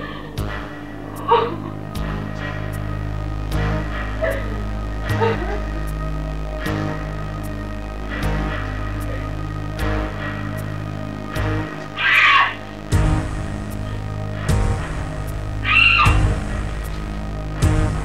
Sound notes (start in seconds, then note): 3.6 tense music; 12.0 scream; 15.7 scream